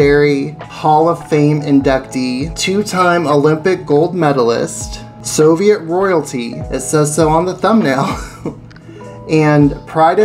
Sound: laughs

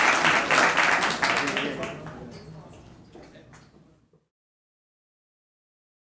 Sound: attendees chattering

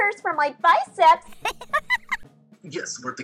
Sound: laughter

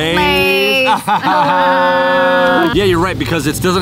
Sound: laughing

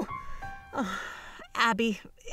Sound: sighs

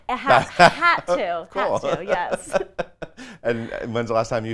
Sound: laughs loudly

